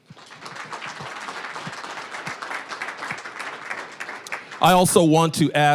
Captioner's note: applause